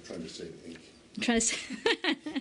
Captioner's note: laughter